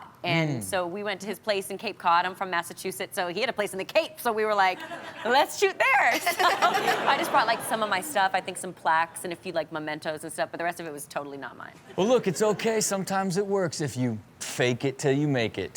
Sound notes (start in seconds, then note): 4.8 crowd laughs; 6.0 Chanel laughs